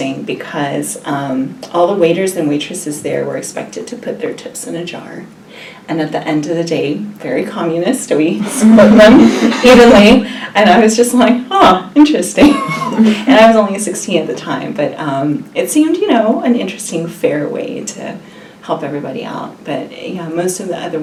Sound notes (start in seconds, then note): 8.4 laugh; 12.4 laughs